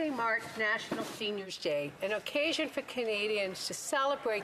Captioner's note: speaking French